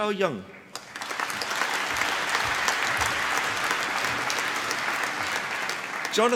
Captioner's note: applause